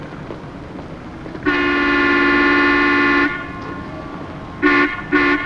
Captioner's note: horn honking